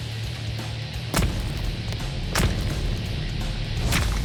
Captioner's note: thuds; squishes